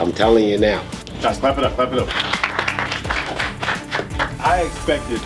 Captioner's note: clapping